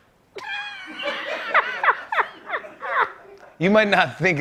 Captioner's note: laughter